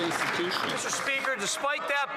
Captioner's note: cheering and Applause